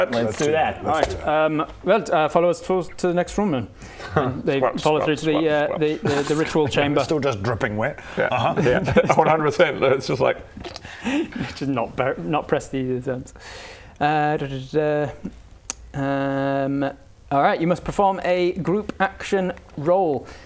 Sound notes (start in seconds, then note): 6.0 squelch squelch squelch squelch